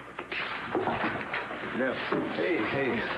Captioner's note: knock on door